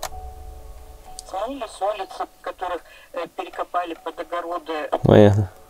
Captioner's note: turning on radio